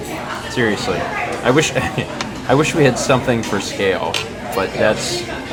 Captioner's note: chuckles